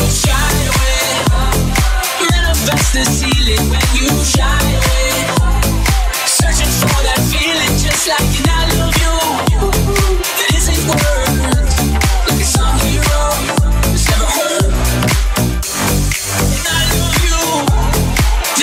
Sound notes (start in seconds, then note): 9.4 ooh, ooh; 11.4 ooh, ooh